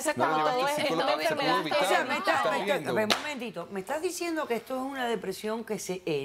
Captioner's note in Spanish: Hablan al unísono